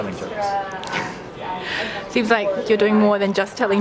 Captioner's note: laughs